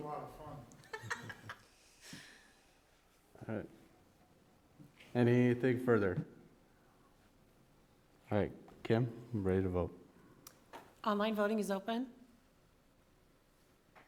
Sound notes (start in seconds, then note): 0.7 laughs